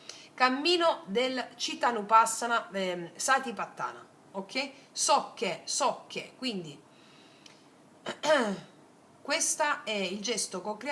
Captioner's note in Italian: schiarire la voce